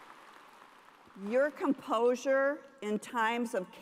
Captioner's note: cheers and applause